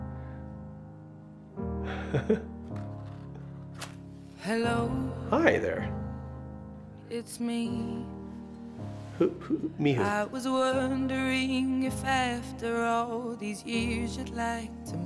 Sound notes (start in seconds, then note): 1.9 laughs